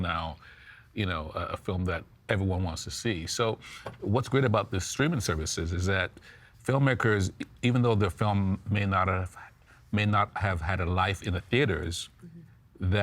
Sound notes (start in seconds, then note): none